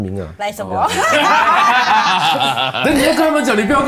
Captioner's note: laughs